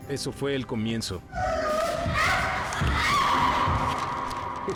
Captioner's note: grunting, screaming